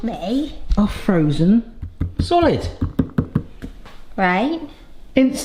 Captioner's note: fingers tap